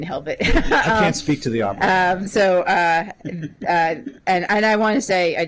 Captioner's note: laughter